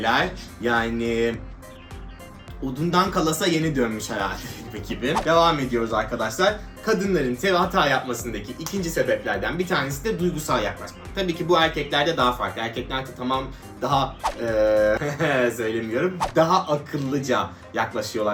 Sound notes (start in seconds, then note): 14.6 laughing